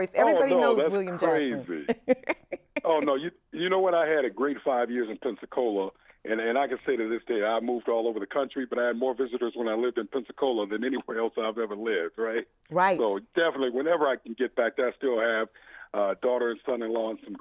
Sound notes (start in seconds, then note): 1.0 laughs